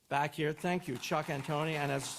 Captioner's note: audience applauds